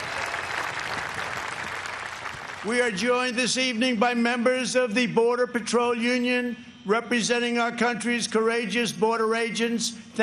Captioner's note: cheers and applause